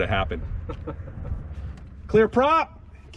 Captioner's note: student chuckling